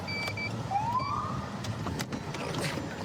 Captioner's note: siren chirps